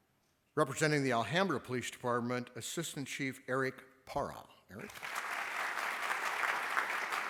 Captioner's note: applause